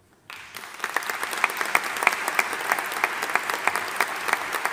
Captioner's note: audience applauding